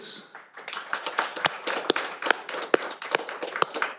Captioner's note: all applauding